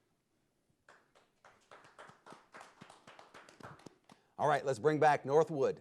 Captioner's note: audience applauding